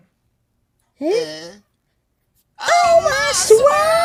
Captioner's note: Komasan & Komajiro groan confusedly